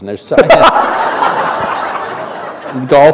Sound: laughter

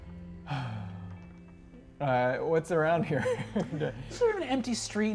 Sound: sighs sadly; chuckles

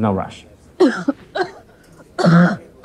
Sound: coughing

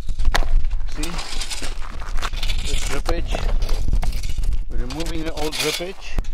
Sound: shovel scrapes stones

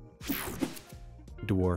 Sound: graphics whooshing

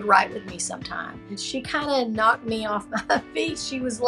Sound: chuckling

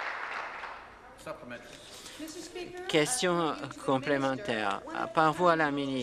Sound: applause

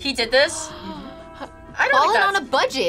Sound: gasps

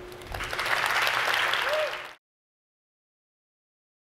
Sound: audience clapping

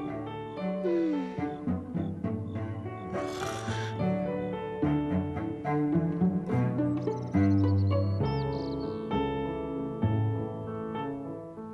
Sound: snoring

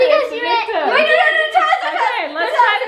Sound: kids shouting

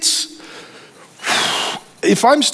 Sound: sighs

